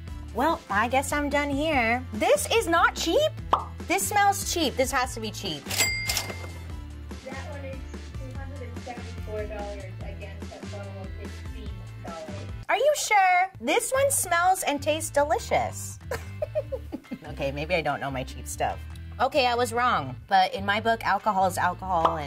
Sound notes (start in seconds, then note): 5.6 cash register ringing